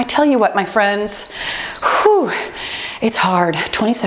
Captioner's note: timer beeping